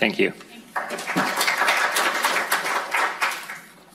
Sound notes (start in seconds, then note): 0.7 applause